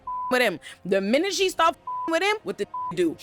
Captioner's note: beep; beep